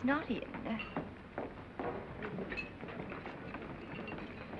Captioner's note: crew chattering